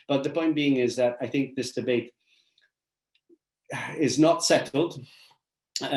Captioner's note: sighs